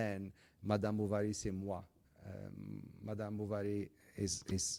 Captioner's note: speaks in foreign language